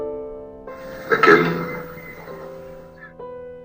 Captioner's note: voiceover of man speaking in french